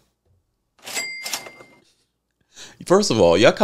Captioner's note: imitates register chiming